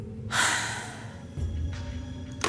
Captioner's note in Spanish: exhala